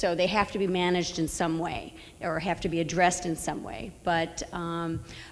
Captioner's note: none